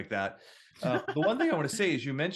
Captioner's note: laughs